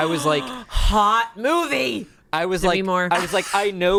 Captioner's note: gasps